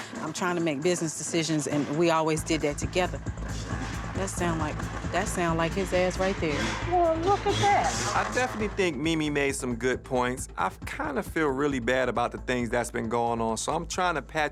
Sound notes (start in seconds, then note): 6.4 revving engine